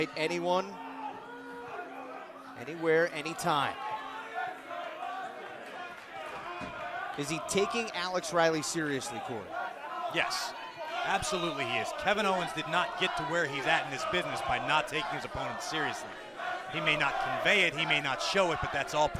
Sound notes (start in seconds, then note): 5.2 fans chanting